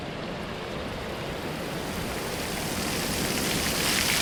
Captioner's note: water running